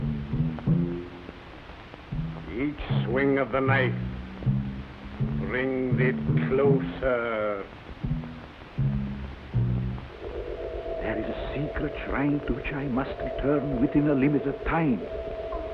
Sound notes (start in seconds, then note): 10.1 magic whirs